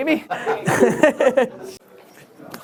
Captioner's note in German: Lachen